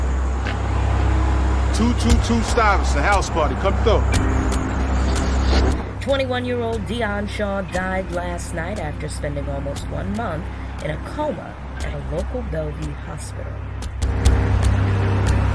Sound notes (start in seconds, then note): 7.9 radio Announcer